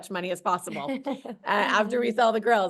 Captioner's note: both laughing